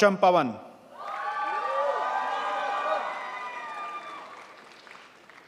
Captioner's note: crowd applauds